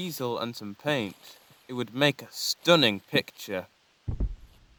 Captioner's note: footsteps heard retreating